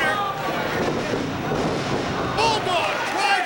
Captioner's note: bodies slamming